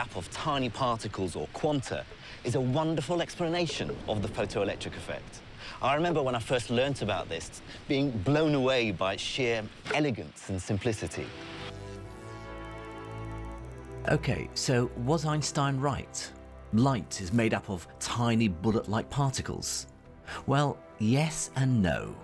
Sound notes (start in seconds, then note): 11.5 static buzzes; 11.6 slow dramatic music